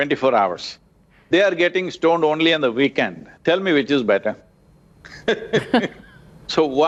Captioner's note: laughs